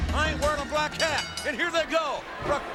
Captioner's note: bell rings